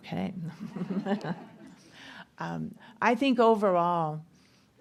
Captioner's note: audience laughter